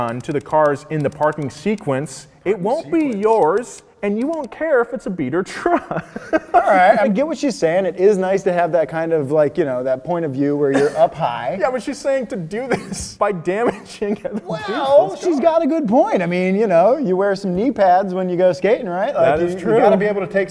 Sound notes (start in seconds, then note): 5.6 laughing; 13.6 giggling